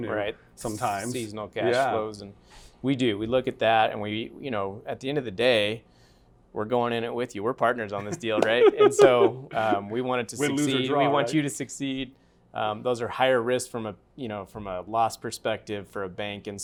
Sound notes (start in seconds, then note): 8.0 laughter